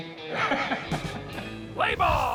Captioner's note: chuckling